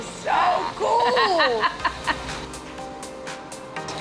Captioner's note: laughing